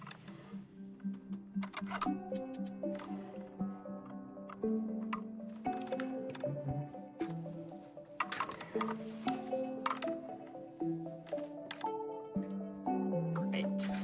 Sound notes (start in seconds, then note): 0.8 clicking sounds; 1.8 subtle music